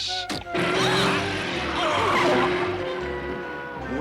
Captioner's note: engine starts